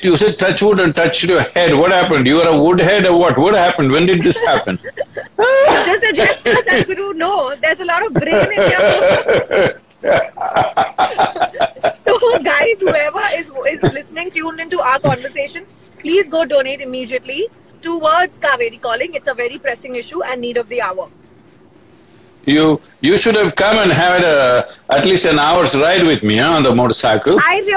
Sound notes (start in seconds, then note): 3.9 both laughs; 10.0 laughter